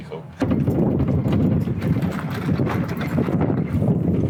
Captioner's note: thumping of a flat tyre